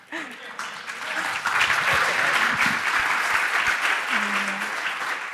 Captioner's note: laughter; applause